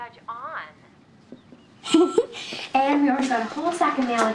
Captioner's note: chuckles